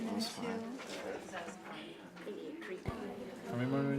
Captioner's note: group chatter